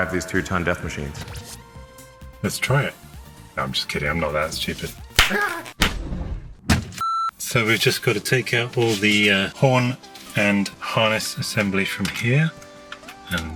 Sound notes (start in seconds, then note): 5.3 electricity cracks and yells; 5.8 thumping sounds; 7.0 beep